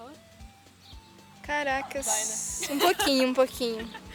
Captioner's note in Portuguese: risos